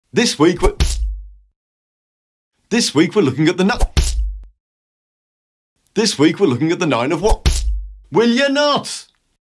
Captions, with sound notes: This week... [ SMACK ] This week we're looking at ni... [ SMACK ] This week we're looking at the nine of Wa... [ SMACK ] WILL YOU NOT!!!